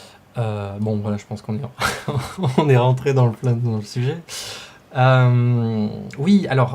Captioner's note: laughter